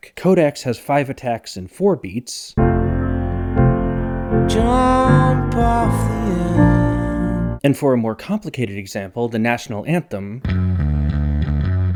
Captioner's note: bang